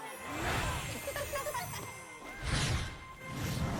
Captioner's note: both laugh